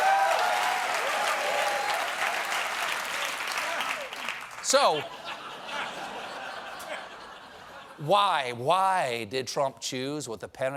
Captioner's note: applause; cheering